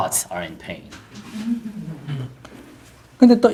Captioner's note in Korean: 청중 웃음